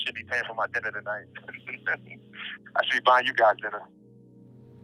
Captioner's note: chuckle; somber music playing